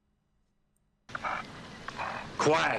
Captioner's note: dog puffing